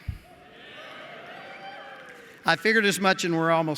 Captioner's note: cheering